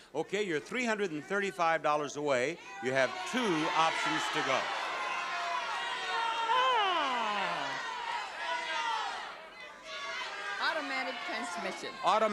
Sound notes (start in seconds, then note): 5.1 audience shouting